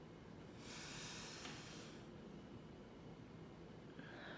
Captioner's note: deep breath